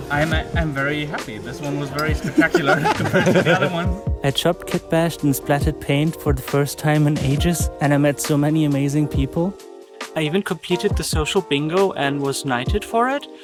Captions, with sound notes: - I'm very happy. This one was very spectacular (laughs) compared to the other ones I chopped kit bash and splatted paint for the first time in ages and I met so many amazing people. I even completed the social bingo and was knighted for it.